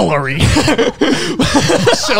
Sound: everyone laughs

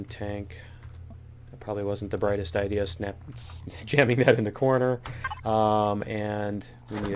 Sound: laughs

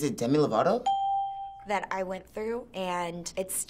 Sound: ding

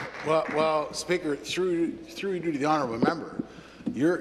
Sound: applause

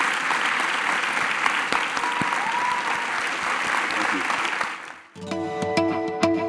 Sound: applause

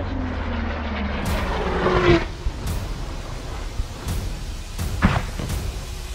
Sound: airstrike, unguided rockets

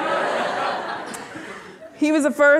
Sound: audience laughing

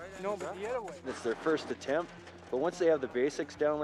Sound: voiceover

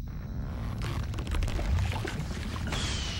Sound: volcano grumbling

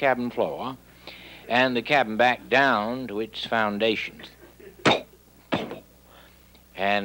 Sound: blowing

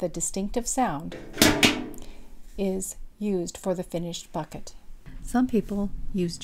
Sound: sound of object dropped in bucket

